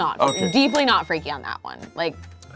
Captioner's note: bell clicking sound